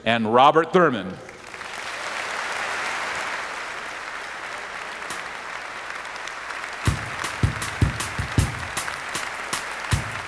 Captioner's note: applause